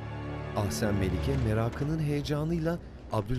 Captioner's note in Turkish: Kapı açılma sesi